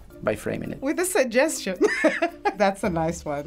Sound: laughing

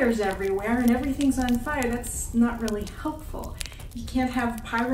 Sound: fire sounds

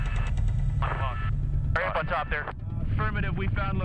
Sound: voiceover

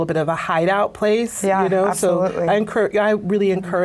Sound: voiceover

